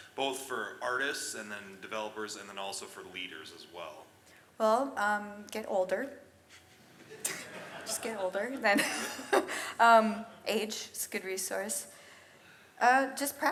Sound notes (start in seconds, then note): 6.9 audience laughs; 9.8 laughs